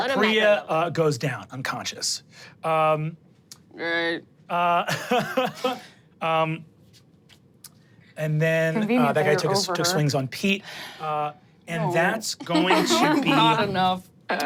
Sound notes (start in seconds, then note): 3.1 chuckles; 12.4 group laughs